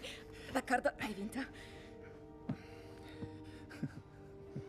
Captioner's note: chuckles